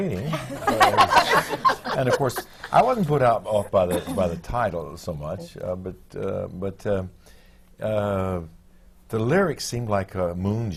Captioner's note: laughter